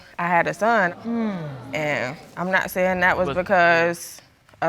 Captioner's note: audience exclaiming